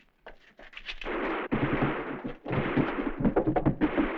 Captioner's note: distant gunfire